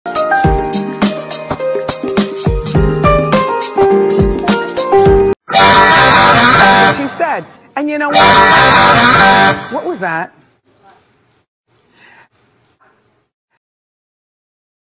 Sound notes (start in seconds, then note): 11.9 inhale